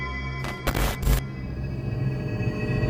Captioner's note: static; eerie music